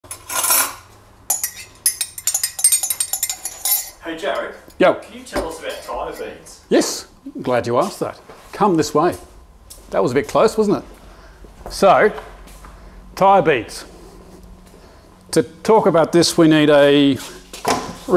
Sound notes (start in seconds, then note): 1.3 stirs noisily